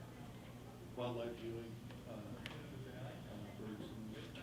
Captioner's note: faintly speaking